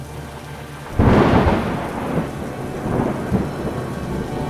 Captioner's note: thunder, dramatic Music